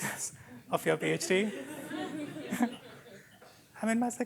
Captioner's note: laughter